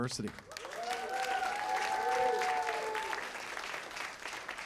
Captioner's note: cheers and applause